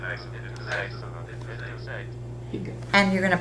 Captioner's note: calculator voices